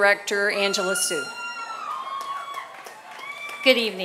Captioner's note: applause